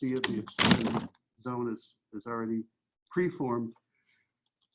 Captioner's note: loud scratch on mic